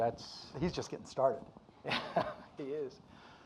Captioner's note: laughs